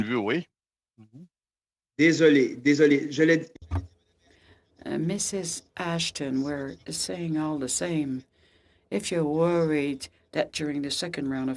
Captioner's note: speaking French